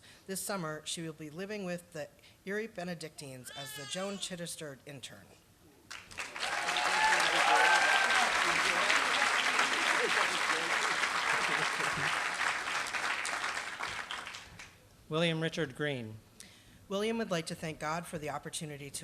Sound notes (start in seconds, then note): 6.3 applause